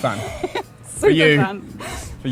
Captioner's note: laughs